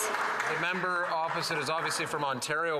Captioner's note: applause